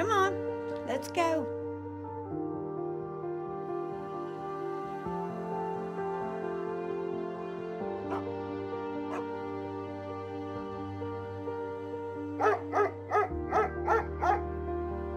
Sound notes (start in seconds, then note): 2.1 gentle music; 8.0 Willamina barking; 9.9 gentle music; 12.4 Willamina barking